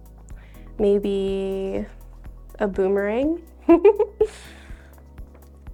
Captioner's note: laughs